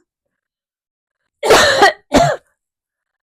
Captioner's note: coughing